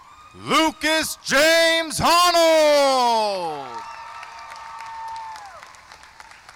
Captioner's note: cheering